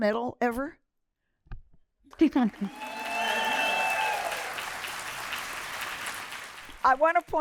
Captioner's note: applause